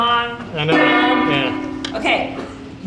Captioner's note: gong dinging